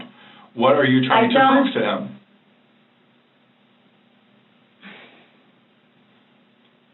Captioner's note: sighs